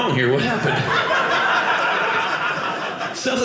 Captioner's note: audience laughing